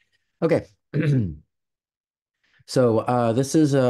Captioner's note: clears throat